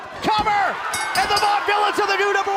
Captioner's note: bell ringing